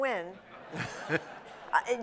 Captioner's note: laughter